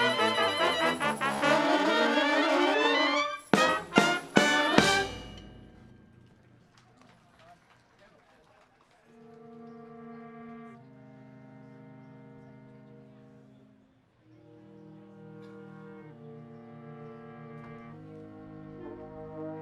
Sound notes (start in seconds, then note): 6.2 audience applauding; 9.6 gentle music